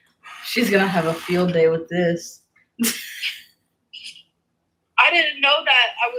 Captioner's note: laughs